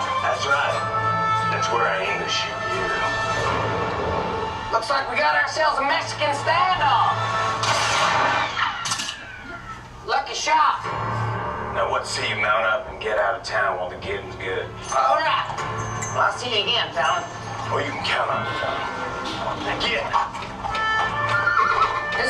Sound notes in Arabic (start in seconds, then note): 7.6 إطلاق النار; 10.8 موسيقى متوترة; 20.9 صهيل الحصان